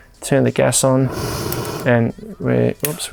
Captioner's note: flame whooshes